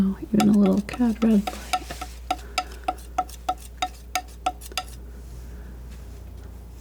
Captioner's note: tapping on paper